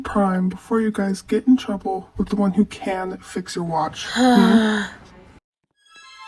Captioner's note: groans in annoyance